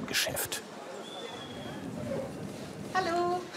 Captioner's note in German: Leises Stimmengewirr